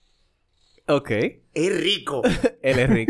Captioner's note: laughs